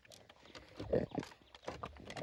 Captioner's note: grunting